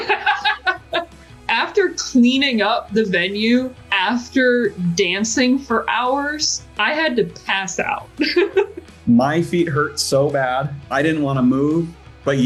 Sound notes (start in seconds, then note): 0.0 both laughing; 8.2 laughing